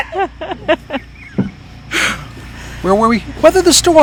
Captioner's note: laughing